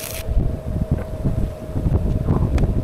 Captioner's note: wind blowing